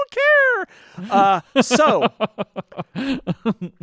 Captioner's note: laughing